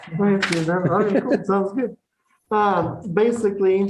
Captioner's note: laughter